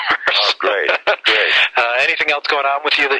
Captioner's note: laughs